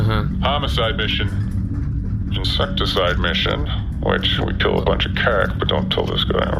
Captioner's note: whispering